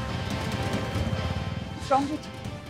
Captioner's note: Bike speeding